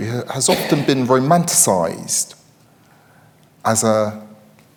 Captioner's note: attendee coughing